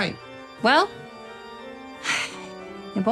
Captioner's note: sighs